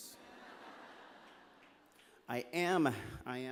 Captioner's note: laughter